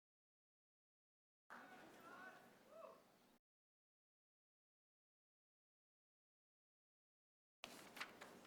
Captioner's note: applause